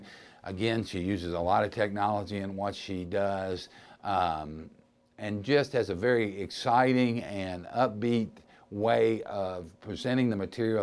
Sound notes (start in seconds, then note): none